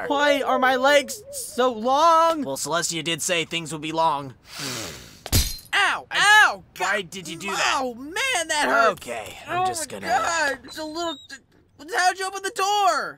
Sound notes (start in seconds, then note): 4.4 twilight inhales; 5.3 glass breaks